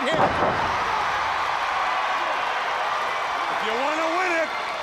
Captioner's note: crowd cheering